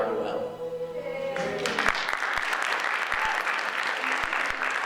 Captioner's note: audience applauds